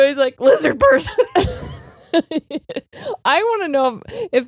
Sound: both laughing

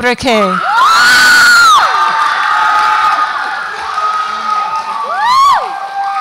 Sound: audience applauds and cheers

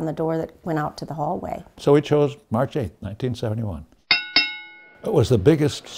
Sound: bell dings, crowd cheering

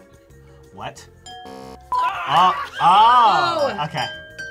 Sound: buzzer

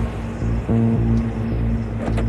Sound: engine revving

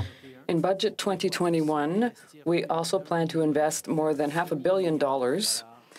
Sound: speaking french

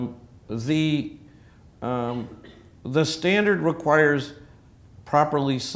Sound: cough

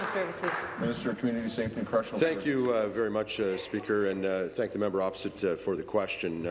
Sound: applause

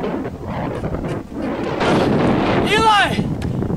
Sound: wind blows

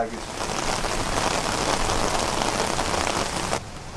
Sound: rain pouring

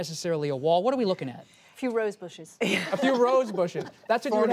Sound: laughter

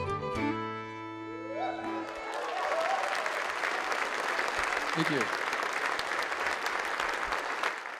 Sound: applause

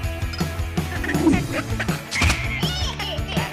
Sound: giggling

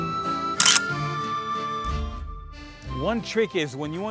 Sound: camera clicks

